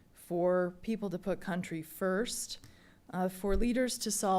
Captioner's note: none